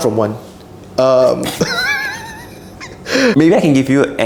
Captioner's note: wheezing